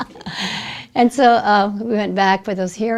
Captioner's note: laughs